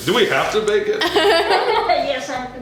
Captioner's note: laughter